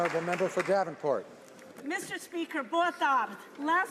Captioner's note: some Applause